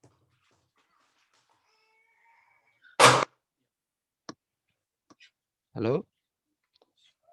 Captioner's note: silent